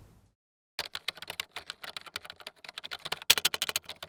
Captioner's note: typing sound